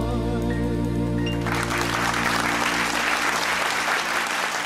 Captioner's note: clapping